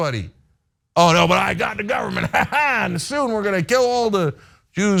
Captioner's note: laugh